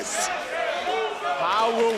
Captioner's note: crowd chattering